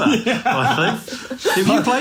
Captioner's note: laughs